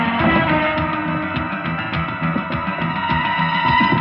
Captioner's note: banging